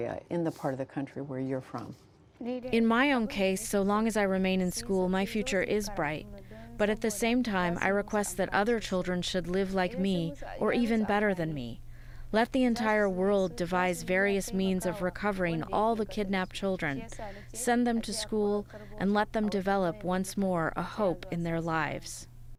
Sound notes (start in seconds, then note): 2.3 through translator